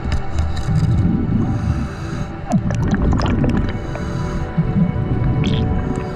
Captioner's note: underwater sounds continue